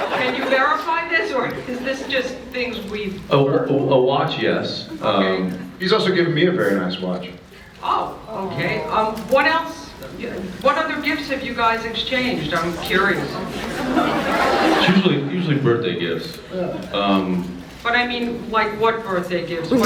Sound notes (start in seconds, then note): 0.0 laughs; 13.4 various reactions